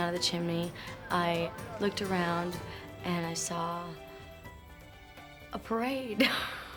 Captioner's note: laughs